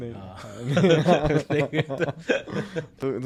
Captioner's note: laugh